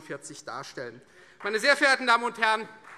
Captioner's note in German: Beifall Freie Demokraten